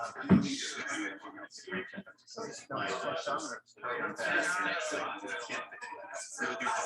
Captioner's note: people chattering indistinctly